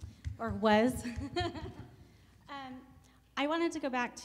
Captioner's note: laughs